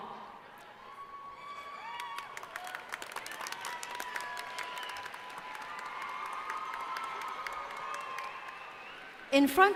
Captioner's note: applause